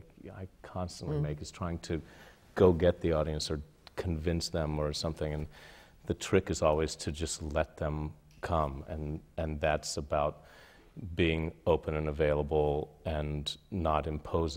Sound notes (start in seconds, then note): none